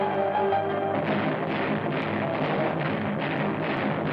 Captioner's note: gunshots